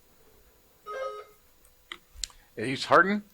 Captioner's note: buzzer buzzing